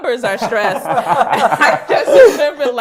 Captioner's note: laughs